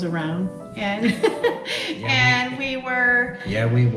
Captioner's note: chuckles